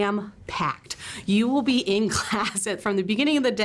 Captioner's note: chuckles